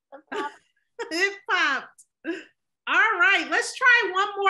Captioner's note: laughs